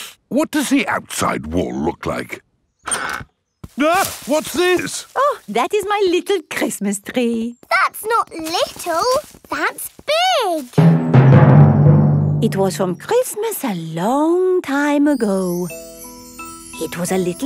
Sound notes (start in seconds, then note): 0.1 inhales sharply; 4.3 exclaims